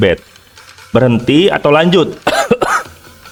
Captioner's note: cough